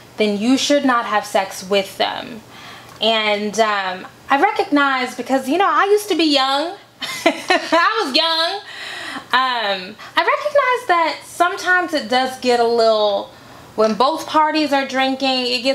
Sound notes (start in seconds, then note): 7.0 chuckles